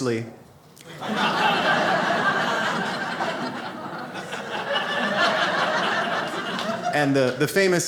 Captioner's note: audience laughs